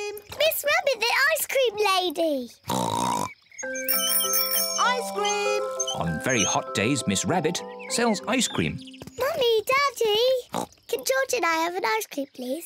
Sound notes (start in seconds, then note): 2.7 oinks excitedly; 3.6 rings bell